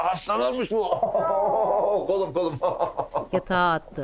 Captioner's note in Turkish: Gülme sesi